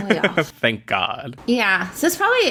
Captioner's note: laughs